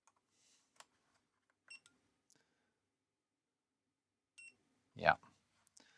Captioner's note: beep